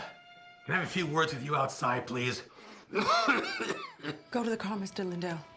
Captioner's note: coughs